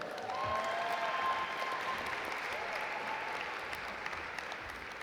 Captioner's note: audience applaud